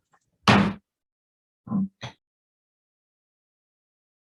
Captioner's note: gavel bangs